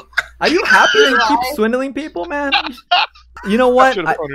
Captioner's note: laughs